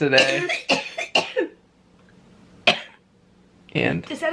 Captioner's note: coughing